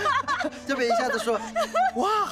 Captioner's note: both laughing